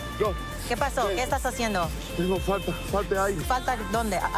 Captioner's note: speaking spanish